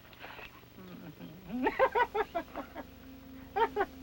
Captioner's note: laughs